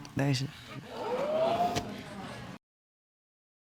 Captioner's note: audience exclaiming